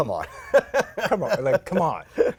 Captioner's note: laughter